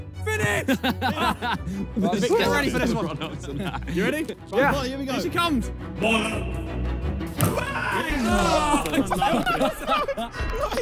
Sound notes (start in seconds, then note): 0.4 players laugh; 7.4 players shout and laugh; 7.4 ominous instrumental music